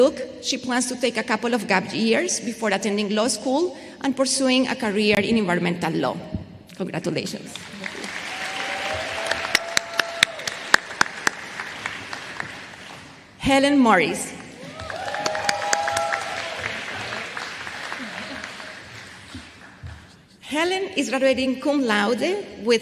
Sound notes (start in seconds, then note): 12.1 applause